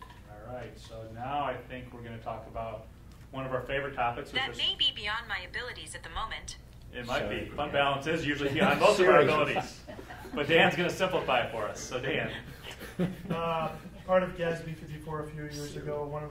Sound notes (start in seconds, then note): 7.9 laughing; 10.1 board members laughing